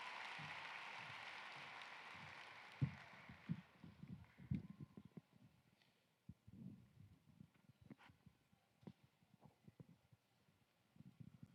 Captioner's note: applause